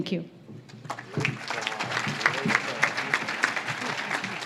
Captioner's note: audience claps